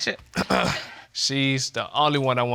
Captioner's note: clears throat